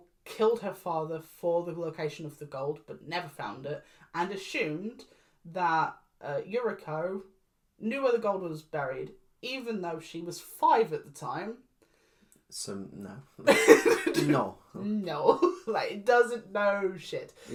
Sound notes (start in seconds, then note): 13.4 laughs